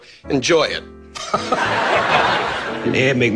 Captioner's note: laughing